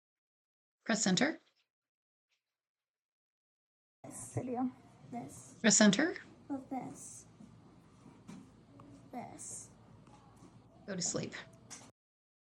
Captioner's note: childs soft voice from video recording